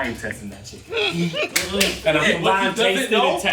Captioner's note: laughing